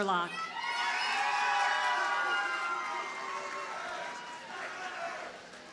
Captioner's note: audience cheers and applauds